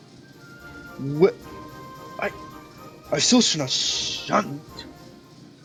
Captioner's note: shunt